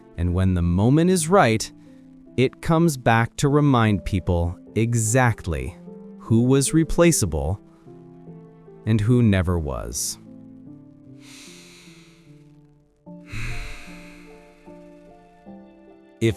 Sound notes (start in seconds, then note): 10.2 sigh; 13.3 snoring